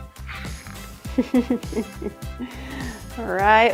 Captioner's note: chuckles